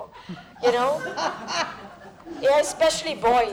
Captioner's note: laughter